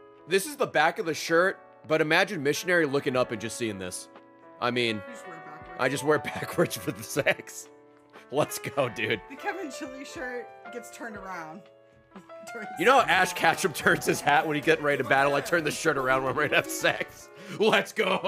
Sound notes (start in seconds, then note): 8.0 laughs